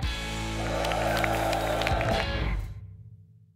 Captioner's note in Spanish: multitud aplaude